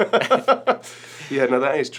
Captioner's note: Tom laughs